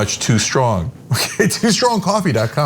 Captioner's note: laugh